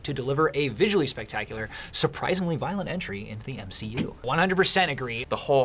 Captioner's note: none